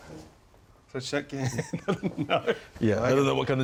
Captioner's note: laughs